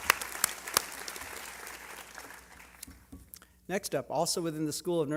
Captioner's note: applause